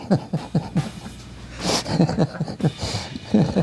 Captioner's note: laughing